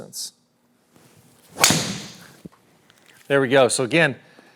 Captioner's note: ball cracking